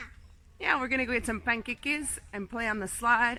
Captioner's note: speaking Spanish